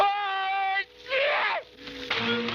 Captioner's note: screaming; dramatic music